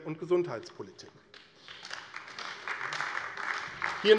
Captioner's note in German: Beifall AfD